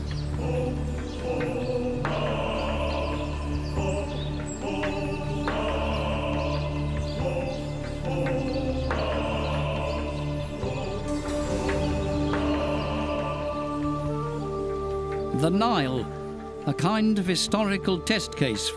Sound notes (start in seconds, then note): 0.4 men chanting; 1.9 birds; 14.0 flute music